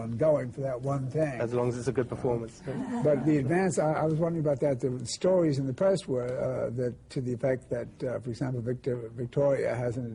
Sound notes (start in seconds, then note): 2.7 laughter